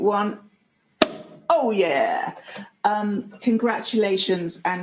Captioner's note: pop